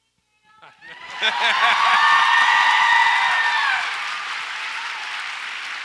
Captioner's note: audience applauds and cheers